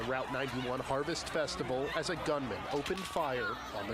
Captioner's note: crowd noise